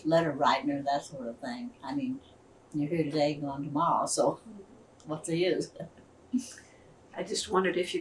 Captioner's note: laughs